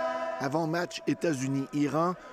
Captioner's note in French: cris des partisans